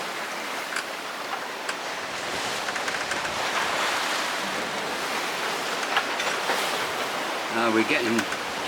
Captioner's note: wave Noise